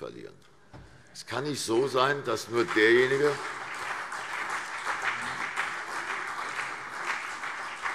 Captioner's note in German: Beifall CDU und BÜNDNIS 90/DIE GRÜNEN